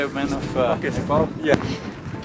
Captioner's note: laughs